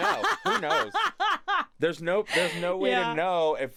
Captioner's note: laughs